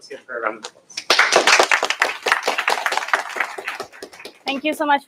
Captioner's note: applause